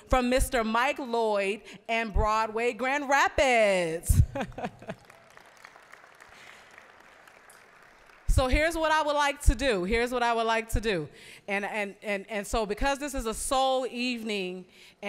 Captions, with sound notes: from Mr. Mike Lloyd and Broadway Grand Rapids. (applause) So here's what I would like to do. Here's what I would like to do. And so, because this is a soul evening